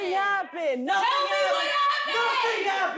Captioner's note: yelling